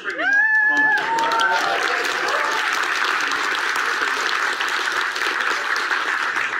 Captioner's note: audience cheers and applauds